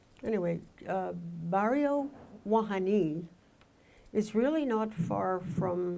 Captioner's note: speaking in foreign language